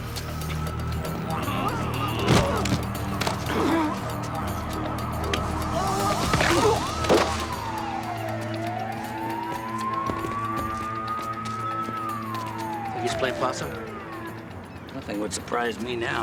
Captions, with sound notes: (sirens wailing) (groaning) (cracking) (sirens wailing) Think he's playing possum? Nothing would surprise me now.